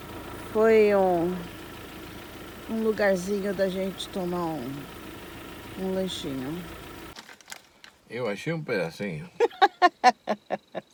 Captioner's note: laughter